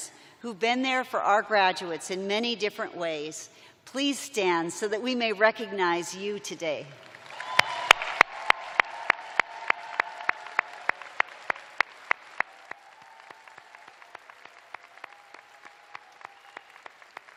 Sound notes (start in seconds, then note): 4.1 cheers and applause